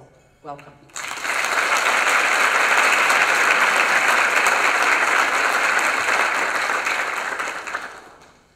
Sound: applause

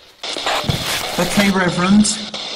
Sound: screen crackling

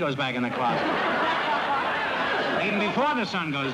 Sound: laughter

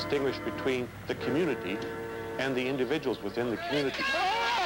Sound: crowd cheering

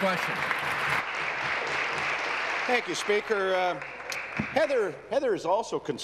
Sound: applause

